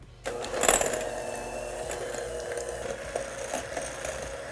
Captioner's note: mixer whirring